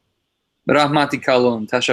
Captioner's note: said in Tajik